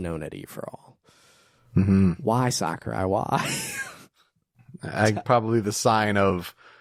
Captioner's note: laughs